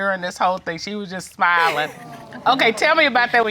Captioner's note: chuckles